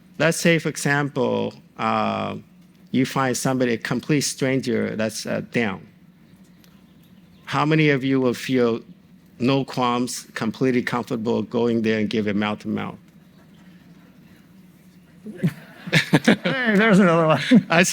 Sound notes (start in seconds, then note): 15.2 audience indistinctly conferring; 15.3 audience laughs